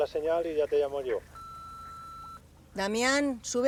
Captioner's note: phone call beeps